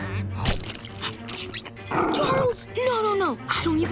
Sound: growling

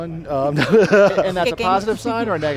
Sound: laughing

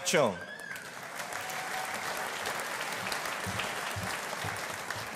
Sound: audience applauding

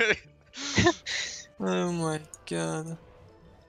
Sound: haha

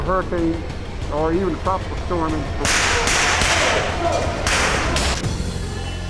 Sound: gun firing; ominous overtones

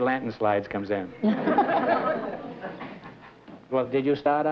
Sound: laughter

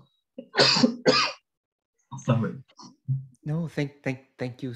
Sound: coughs

